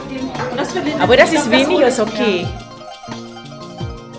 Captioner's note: speaking German